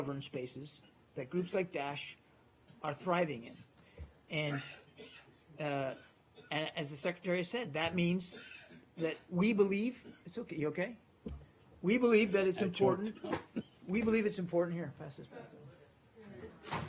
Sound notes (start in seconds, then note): 10.5 coughing